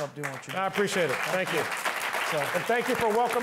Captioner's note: applause